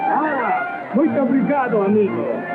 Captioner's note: speaking portuguese